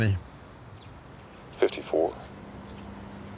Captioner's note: on phone